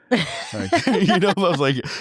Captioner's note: laughing